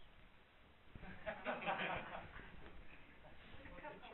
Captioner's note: audience laughter